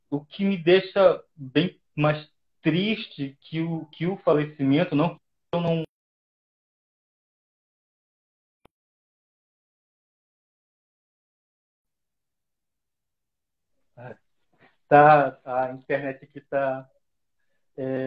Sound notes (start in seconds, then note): 5.0 audio stopped